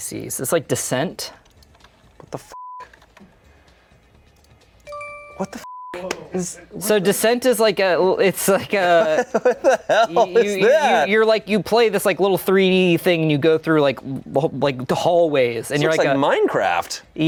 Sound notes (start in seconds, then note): 4.8 beep